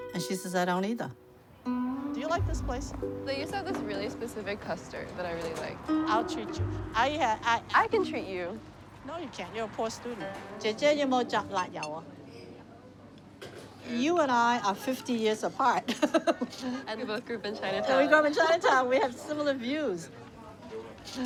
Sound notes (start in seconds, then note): 11.0 speaking Chinese; 15.9 laughs